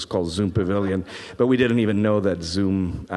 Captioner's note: man laughs